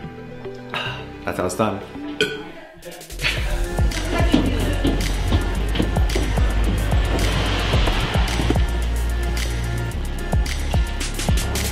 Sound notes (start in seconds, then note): 0.7 satiated sigh; 2.2 burps; 3.1 laughs; 4.7 crowd chatters